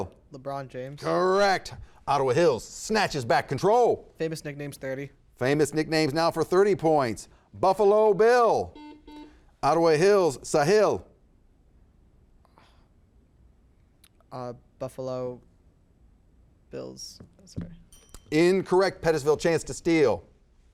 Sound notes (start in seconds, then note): 8.7 buzzer buzzes